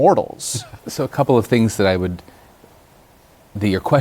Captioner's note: laughs